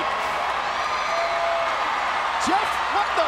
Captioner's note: audience cheering and clapping